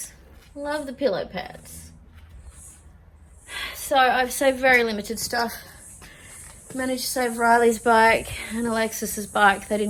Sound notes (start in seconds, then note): 3.4 sighs